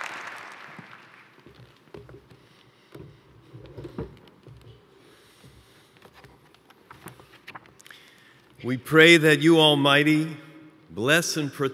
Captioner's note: applause